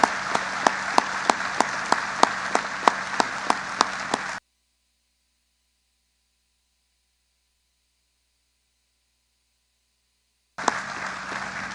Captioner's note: applause